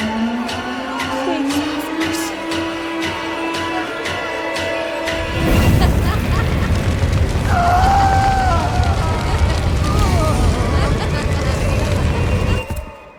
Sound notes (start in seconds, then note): 5.4 girls laughing; 7.4 man screaming